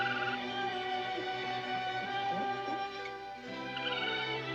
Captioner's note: raccoons squealing